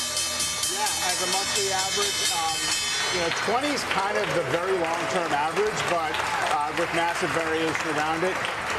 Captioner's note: bell ringing